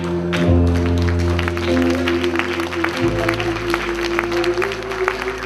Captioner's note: applause